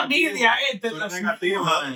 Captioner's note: speaking In Foreign Language